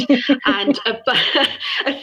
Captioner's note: laughter